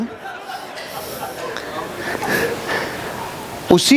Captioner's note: laughing